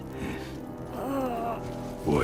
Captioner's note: groan